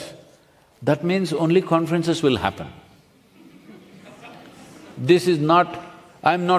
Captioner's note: few laugh